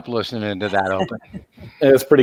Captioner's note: laughs